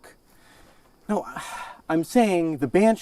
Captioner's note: sighs